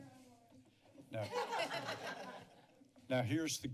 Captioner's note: laughter